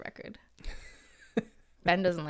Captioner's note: laughs